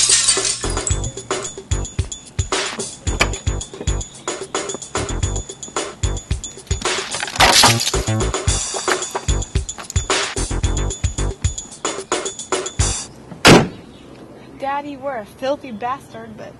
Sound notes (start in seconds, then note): 0.0 glass breaking; 0.2 door latch; 4.3 glass hitting floor; 13.4 door slam